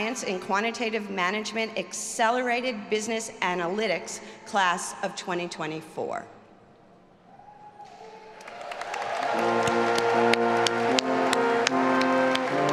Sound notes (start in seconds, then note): 7.7 all applauding; 9.3 uplifting music